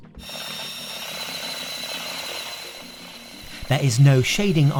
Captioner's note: drill buzzing